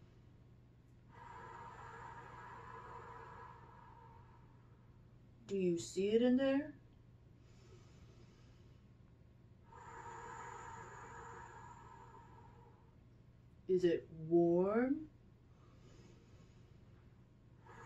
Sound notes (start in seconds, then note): 0.0 inhales; 1.1 exhales; 7.1 inhales; 9.6 exhales; 15.5 inhales